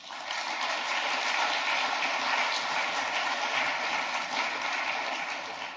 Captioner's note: claps